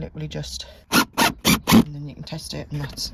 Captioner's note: screwdriver sounds